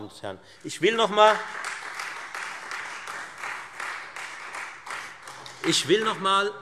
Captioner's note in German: Beifall Freie Demokraten